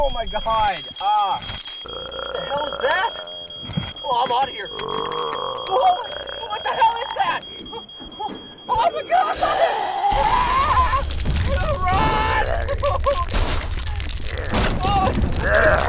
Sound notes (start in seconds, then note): 1.8 growling sound; 4.7 growling; 9.3 breaking glass sound